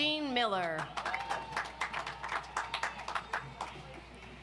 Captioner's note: audience applauds